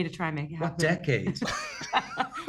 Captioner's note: laughter